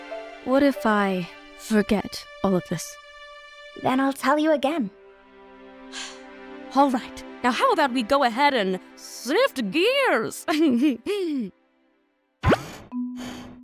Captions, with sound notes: What if I… forget all of this? Then I’ll tell you again. [SIGH OF RELIEF] Alright! Now how about we go ahead and- SIFT GEARS! [CHUCKLES]